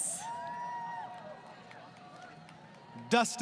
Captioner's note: crowd Cheering